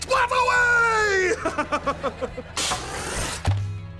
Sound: laughing

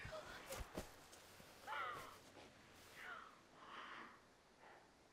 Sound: crying

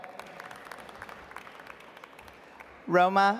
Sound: audience applauds

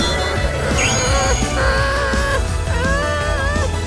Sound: groaning

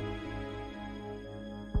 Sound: none

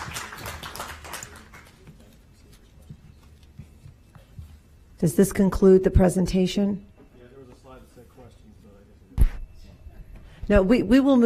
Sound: applause

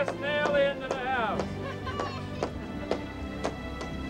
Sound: both laughing

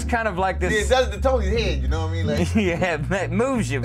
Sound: laughs

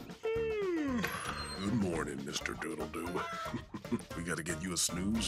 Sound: chuckles

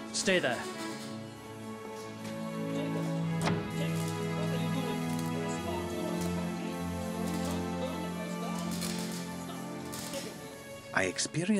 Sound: man scolding in background

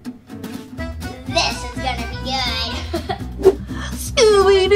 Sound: laughs

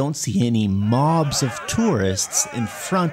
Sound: angry crowds

